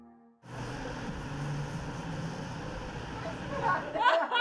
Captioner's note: car engines whir